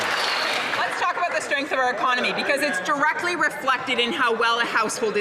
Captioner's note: some Applause